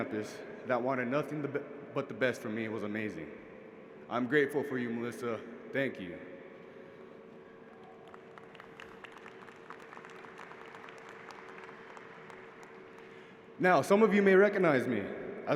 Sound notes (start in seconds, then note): 7.7 applause